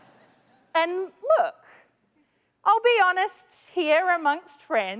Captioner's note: laughter